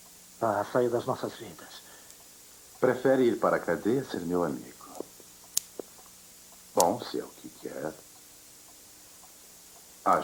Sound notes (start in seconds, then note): none